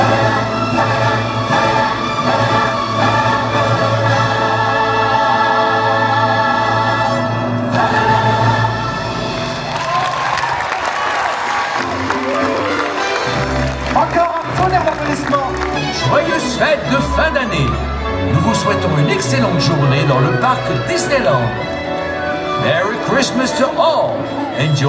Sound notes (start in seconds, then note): 10.1 audience applauding; 14.7 announcer speaking in French; 14.7 bright orchestral music